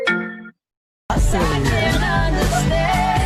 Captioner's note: phone rings, groans